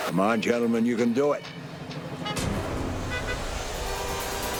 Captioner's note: car alarm